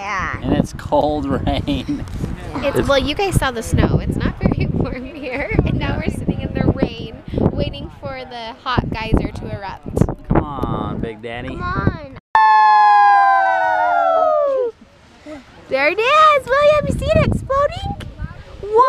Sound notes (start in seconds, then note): 12.4 cheering